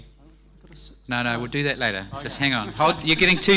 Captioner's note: panellist chattering